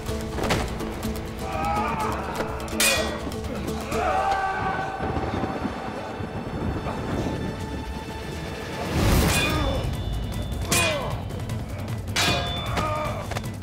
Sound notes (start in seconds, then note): 2.8 Kılıç sesi; 4.9 Gök gürültüsü efekti; 10.7 Kılıç sesi